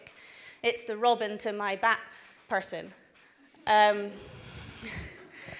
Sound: laughs

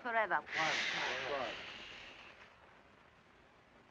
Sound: crowd shushing

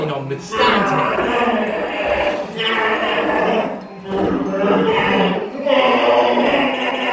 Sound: monster sounds continue

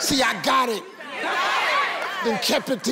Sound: udience cheering

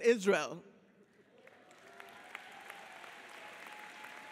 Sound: audience applauds

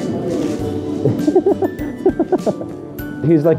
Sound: giggling

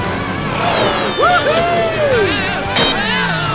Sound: cheering

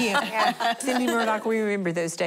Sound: laughing

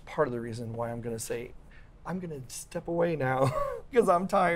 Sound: laughs

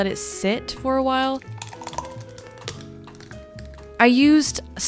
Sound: pouring drink

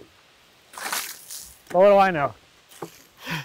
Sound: water splashes

